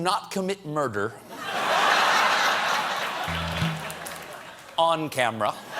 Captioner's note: laughter; laughter